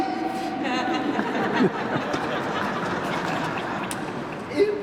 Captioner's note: laughter